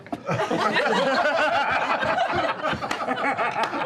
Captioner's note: laughter